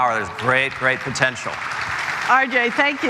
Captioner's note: applause